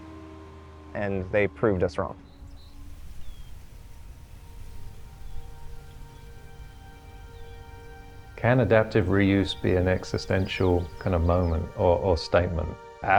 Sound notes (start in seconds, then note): 2.9 birds Chirping